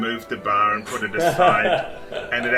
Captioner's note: laughter